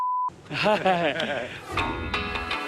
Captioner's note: laughing